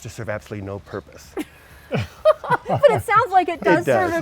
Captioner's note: laughs